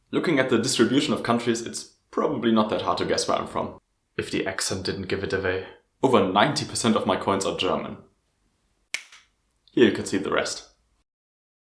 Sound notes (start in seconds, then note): 8.9 snap